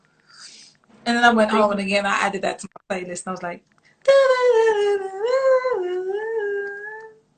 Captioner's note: humming